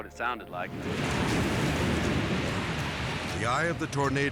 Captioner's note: tornado thundering